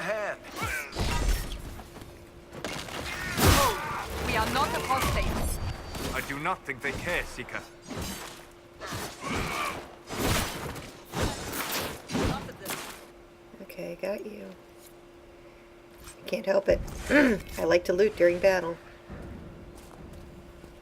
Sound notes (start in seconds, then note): 11.8 clearing throat